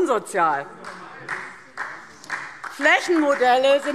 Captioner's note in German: Beifall